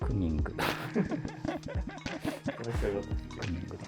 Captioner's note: laughing